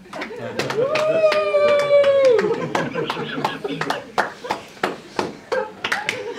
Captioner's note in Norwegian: Applaus